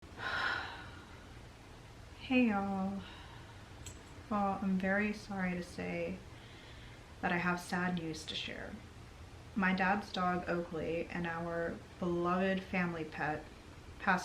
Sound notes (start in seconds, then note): 0.1 sighs